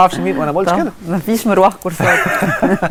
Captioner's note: laugh!